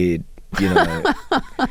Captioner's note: laughter